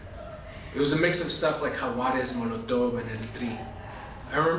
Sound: spanish

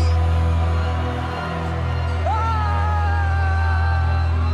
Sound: cheering

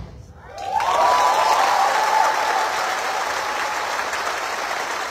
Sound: cheering

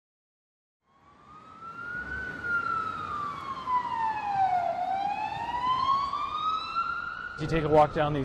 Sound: siren wailing

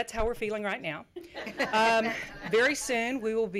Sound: chuckles from the audience

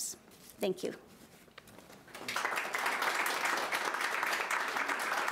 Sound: audience applauding

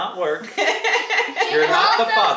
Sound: mum laughing

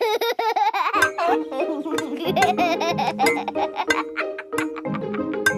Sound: laughs

